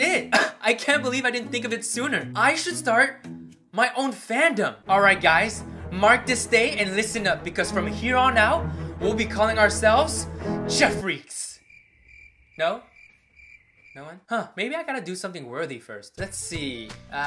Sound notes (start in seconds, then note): 11.5 crickets Sound